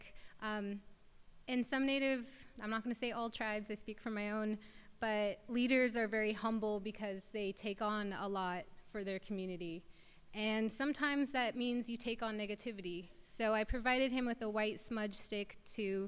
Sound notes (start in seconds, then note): none